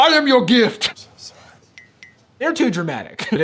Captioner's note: whispers